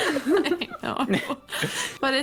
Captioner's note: giggles